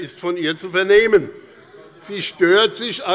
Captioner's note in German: Unruhe - Glockenzeichen des Präsidenten